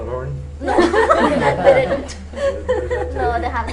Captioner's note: laughter